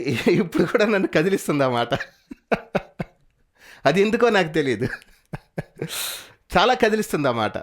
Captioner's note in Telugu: నవ్వు